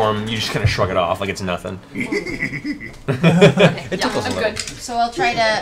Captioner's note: laughs